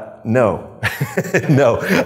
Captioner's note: both laughing